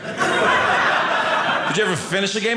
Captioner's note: audience laughing